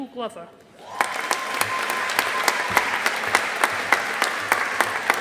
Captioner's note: audience applauding